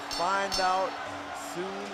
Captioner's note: bell ringing